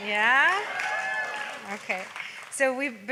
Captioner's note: audience cheering